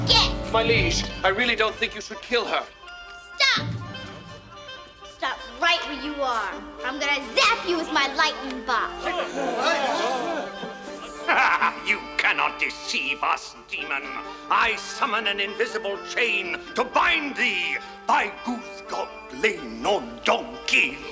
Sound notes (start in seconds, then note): 9.0 laughs; 9.1 crowd gasps; 17.9 speaking gibberish